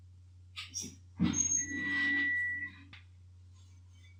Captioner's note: beeping